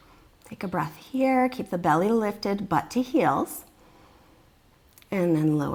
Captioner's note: deep breathing sounds